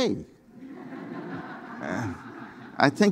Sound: audience laughing

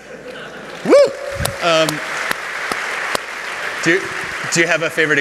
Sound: applause

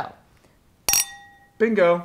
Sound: glasses clink

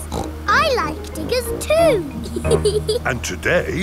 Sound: snorts; laughs

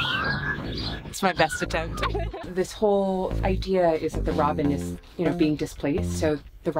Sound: whistles

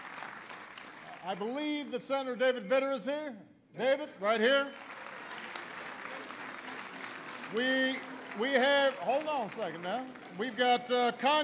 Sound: applause; applause

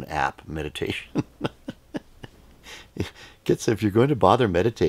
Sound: laughs

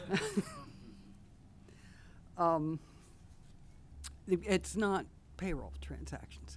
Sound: laughter

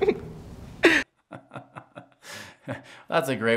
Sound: laughing; laughing continues

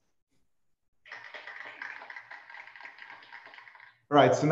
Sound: applause

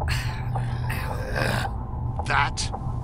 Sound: frustrated growl

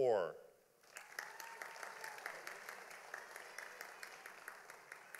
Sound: audience applauding

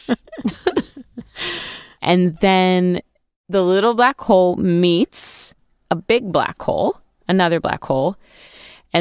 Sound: laughs

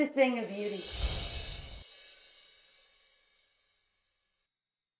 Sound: logo whooshes

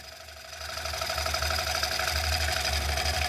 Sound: whirring

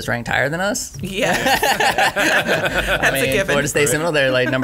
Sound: laughing

